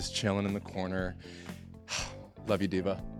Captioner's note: sighs